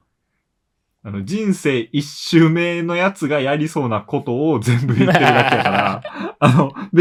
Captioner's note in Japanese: 笑い